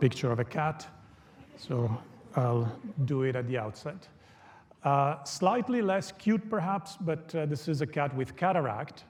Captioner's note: audience laughter